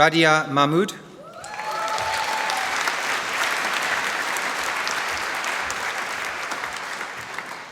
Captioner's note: applause